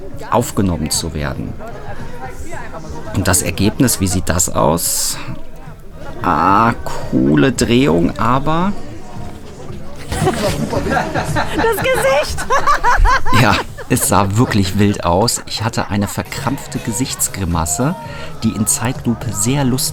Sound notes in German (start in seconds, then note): 12.5 lacht